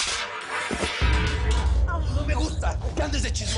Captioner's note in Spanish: Estruendo